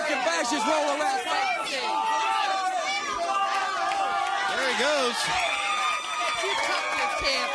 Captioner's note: crowd cheering